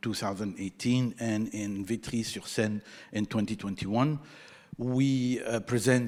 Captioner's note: speaking in foreign language